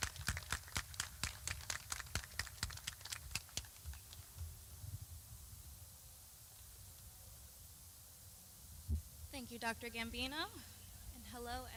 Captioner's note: clapping